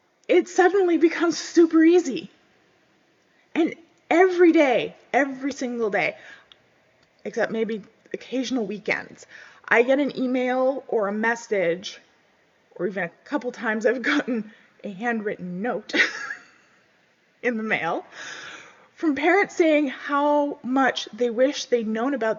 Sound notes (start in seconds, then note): 16.0 laughs